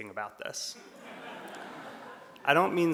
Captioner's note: audience laughs